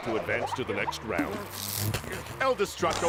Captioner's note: electronic crackle